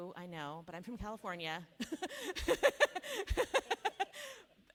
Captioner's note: laughs